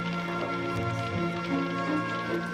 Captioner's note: fire crackling